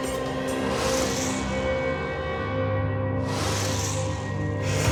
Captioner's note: logo swishing; dramatic instrumental music